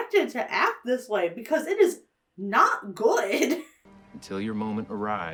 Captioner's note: laughs